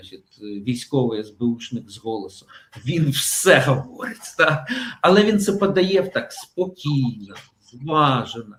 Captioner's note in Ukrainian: сміх